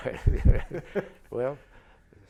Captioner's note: laughter